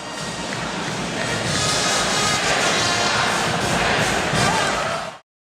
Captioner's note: student Cheering